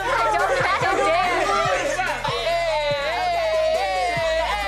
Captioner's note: all laughing